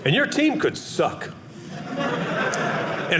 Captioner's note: audience laughing